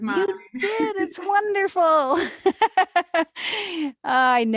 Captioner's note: laughs